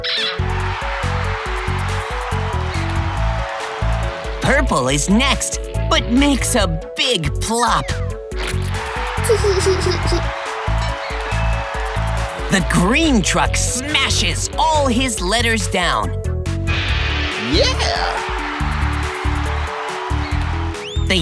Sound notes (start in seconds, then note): 0.1 cheering; 0.2 squeaking; 8.5 cheering; 9.2 giggling; 17.3 cheering